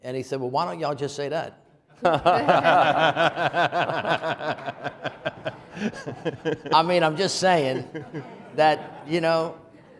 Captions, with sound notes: And he said, "Well, why don't y'all just say that?" (audience laughing) I mean, I'm just saying that, you know,